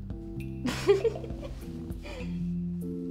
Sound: laughs

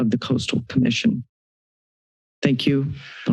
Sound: silence

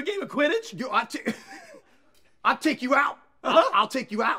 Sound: laughs

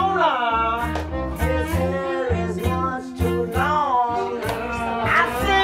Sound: people are laughing

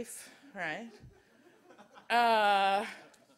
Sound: audience chuckles

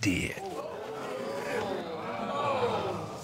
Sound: audience exclaiming

